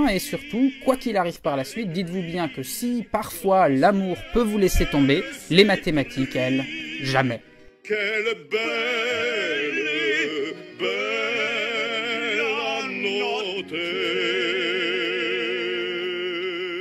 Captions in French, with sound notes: et surtout quoiqu'il arrive par la suite, dites vous bien que si parfois l'amour peut vous laisser tomber, les mathématiques, elles, jamais. [Chant] " Qu'elle est belle, bella note "